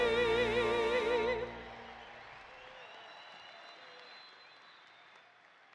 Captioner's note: audience applauding